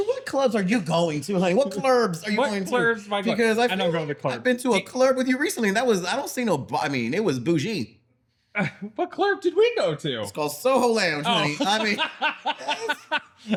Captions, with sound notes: What clubs are you going to? What clubs are you going to? What clubs am I going to? I don't go to the club. I've been to a club with you recently, that was, I don't see no, I mean, it was bougie. What club did we go to? Well, Soho Land. (Laughing)